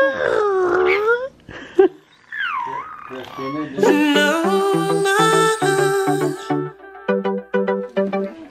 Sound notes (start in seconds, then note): 1.6 laughing; 3.8 upbeat music